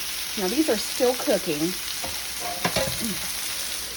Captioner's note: sizzle